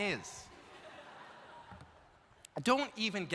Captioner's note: audience laughs